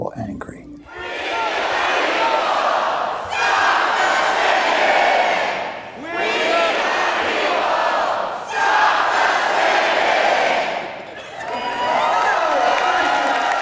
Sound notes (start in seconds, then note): 2.6 inaudible crowd cheering